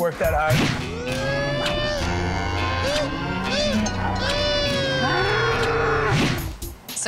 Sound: goofy whooping; cow mooing

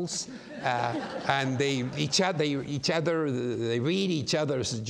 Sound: audience laughs

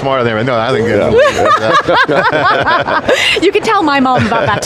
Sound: everyone laughs

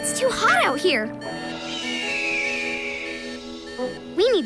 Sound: beeping, squawking

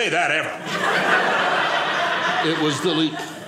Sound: audience laughing

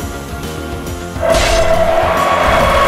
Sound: Gryffyn jumpscare SFX; fire burning SFX

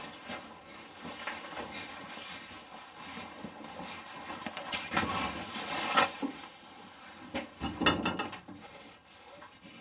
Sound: rattling sound

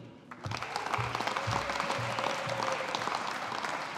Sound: audience applauding

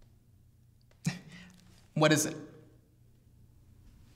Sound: chuckles

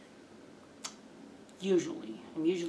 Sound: tongue click

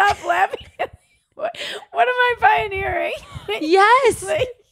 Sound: laughing

